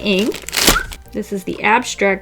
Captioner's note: whistle